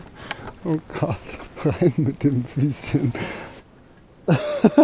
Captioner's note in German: Gelächter